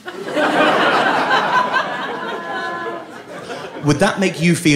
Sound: audience laughing

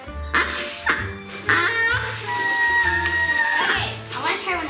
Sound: loud buzzing from whistle

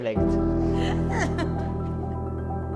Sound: laughing; uplifting music

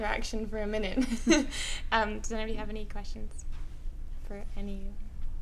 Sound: laughs

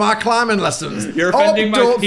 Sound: laughs

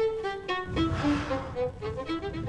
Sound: sighs

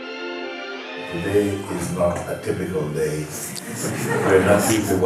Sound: laughter

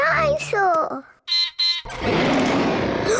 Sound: beeps and roars; gasps and cries

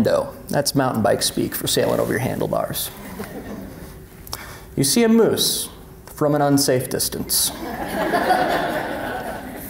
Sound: laughter

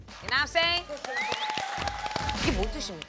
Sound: a round of applause for you

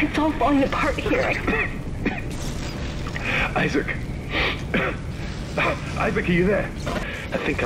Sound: coughs

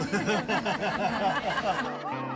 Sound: laughter

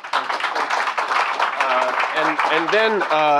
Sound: audience applauding

